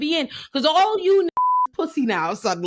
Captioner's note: beep